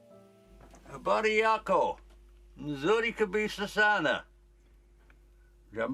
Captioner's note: guy speaking in foreign language